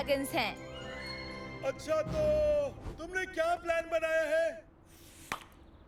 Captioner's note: toots; pop